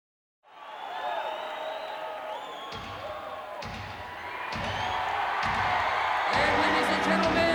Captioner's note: crowd cheering